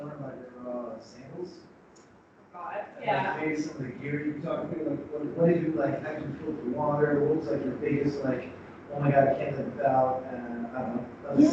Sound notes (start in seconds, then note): 1.9 speaks faintly